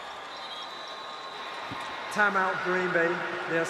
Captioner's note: whistle